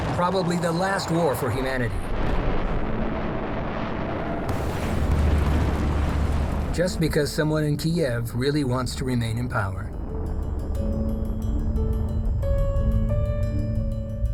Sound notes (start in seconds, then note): 3.0 explosions booming; 9.8 somber piano music